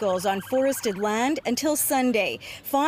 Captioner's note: siren